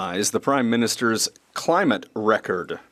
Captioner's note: speaking French